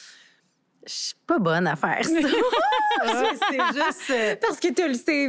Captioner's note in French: rires